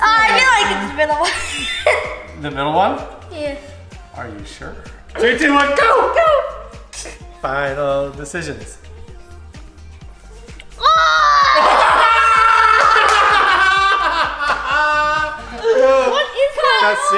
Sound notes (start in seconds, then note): 1.4 nervous chuckle; 10.7 retching; 11.6 yelling